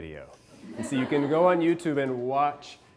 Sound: class laughing

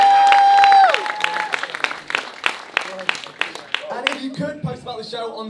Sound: applause

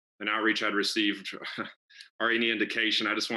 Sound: friend giggles

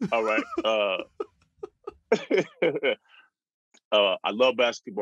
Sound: laughter

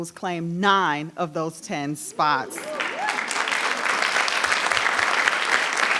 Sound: audience applauding

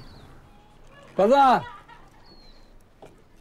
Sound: laughter

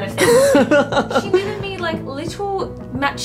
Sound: laughing

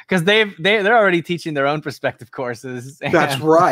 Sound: laughs

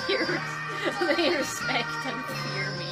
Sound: giggles

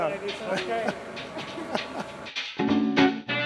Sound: laughing; old timey jazz music

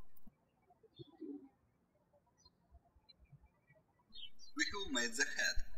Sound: birds chirping

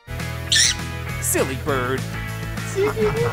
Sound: squawking

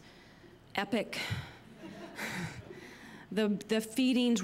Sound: laughter

